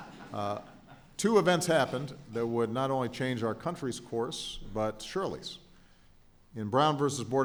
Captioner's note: laughter